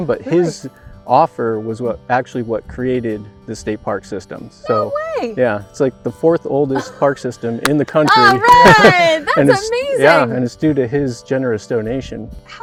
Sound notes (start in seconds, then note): 8.0 laughs; 8.1 everyone's clapping